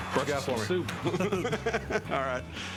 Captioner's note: laughter